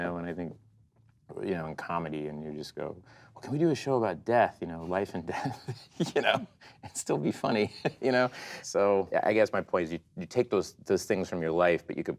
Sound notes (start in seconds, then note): 5.3 laughs